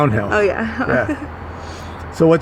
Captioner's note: giggles